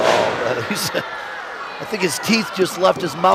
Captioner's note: chuckling